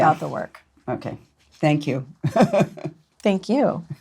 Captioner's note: laughs